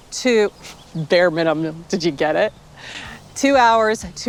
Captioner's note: laughing